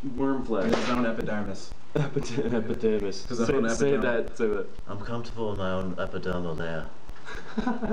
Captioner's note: laughs; laughs